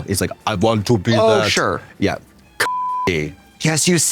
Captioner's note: beep